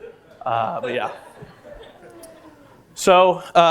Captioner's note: laughter